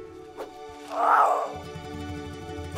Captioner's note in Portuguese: filhote urrando